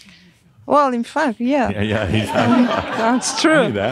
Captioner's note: laughter; chuckles